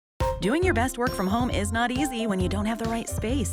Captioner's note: voiceover